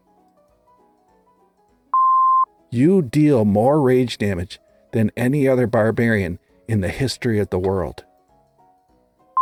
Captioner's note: beep; beep